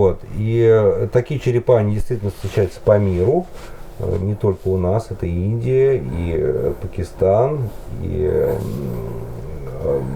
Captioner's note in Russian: стон